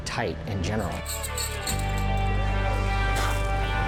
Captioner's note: glass tinkling; mournful music